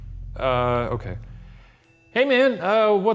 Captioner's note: bell dings